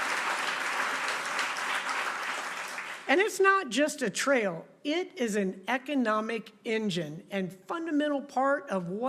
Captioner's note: applause